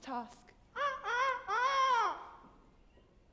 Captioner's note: Peter crows